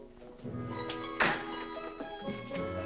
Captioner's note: door closes